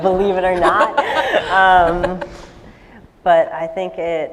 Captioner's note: laughter